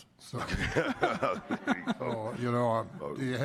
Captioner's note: laughter